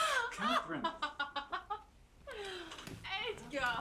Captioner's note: laughing